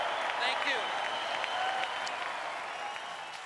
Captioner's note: cheers and applause